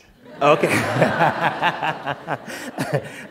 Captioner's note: laughter